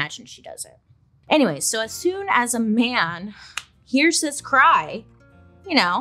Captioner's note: sighs